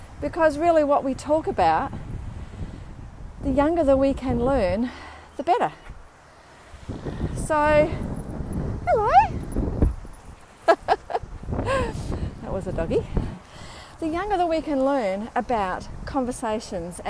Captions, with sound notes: Because really what we talk about the younger we can learn, the better. Hello [chuckles]. That was a doggie. The younger we can learn about conversations